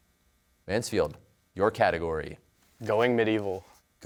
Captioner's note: none